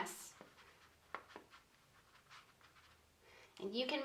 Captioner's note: paintbrush scratching